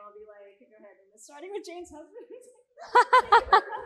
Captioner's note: all laughing; chuckles